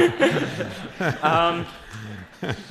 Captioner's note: laughing